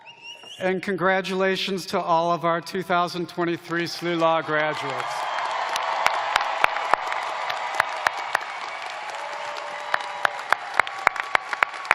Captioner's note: cheers and applause